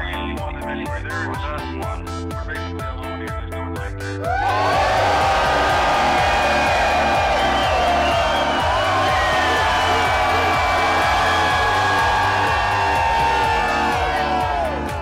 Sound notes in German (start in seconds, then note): 4.2 Jubel